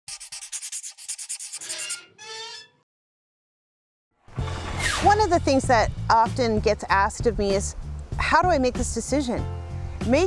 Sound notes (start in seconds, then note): 0.2 scratching; 1.6 squeaking; 4.4 upbeat pleasant music; 4.4 zipping